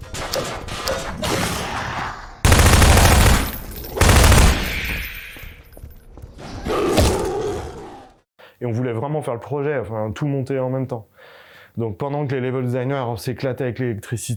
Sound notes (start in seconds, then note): 0.3 things moving; 2.4 gunshots